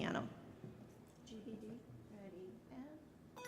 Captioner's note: speaking softly